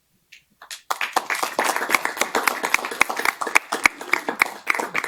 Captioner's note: adience applauding